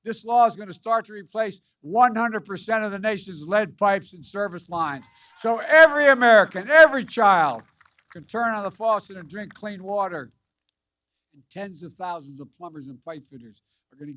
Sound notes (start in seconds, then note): 5.0 applause